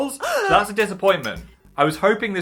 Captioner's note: woman gasps